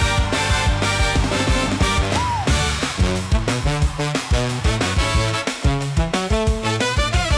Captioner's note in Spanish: grito